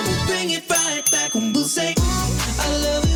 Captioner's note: ding ding!